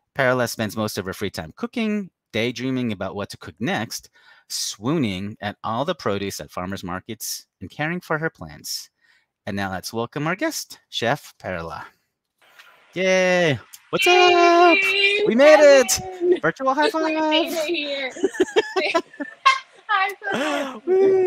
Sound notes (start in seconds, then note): 18.0 both laughing